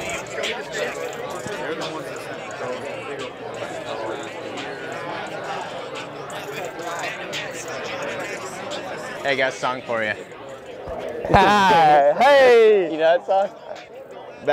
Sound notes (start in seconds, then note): 11.2 laughs